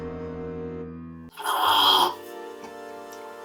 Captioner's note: loud slurp